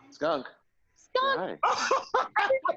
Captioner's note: laughs